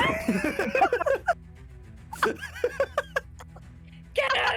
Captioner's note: laughter